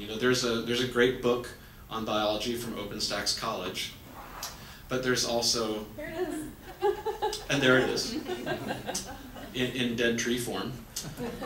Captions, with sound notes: There's a great book on biology from Open Stacks College, but there's also-- >>There it is. (laughs) >>And there it is, (audience laughs) in dentry form.